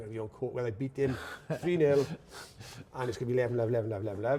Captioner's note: chuckles